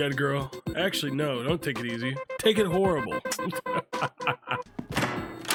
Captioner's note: laughs